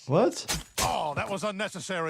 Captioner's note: blade slicing